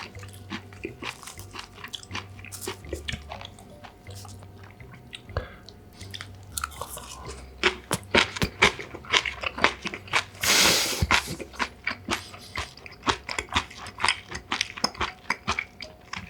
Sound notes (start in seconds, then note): 10.3 snorting